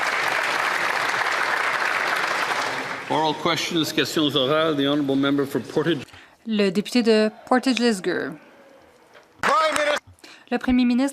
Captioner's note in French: applaudissements